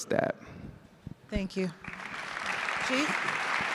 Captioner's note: audience applauds